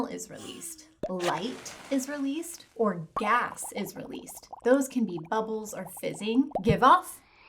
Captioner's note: bubbles or fizzing